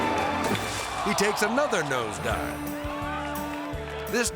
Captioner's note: water splashing